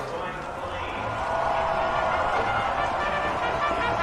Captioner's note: announcer chattering; crowd clamoring